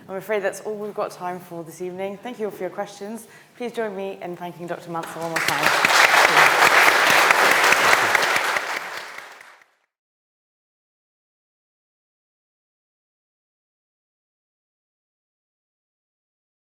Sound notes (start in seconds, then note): 7.0 audience applauds